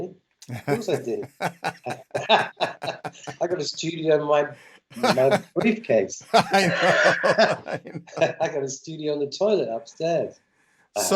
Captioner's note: laughter